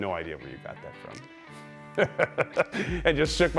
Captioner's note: laughing